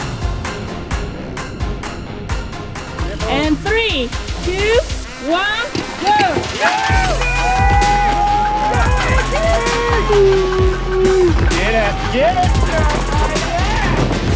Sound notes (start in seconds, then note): 0.2 upbeat music; 5.2 spectators cheering; 6.7 upbeat music